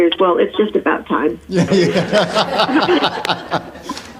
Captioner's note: laughing